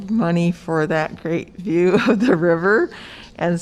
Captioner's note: laughter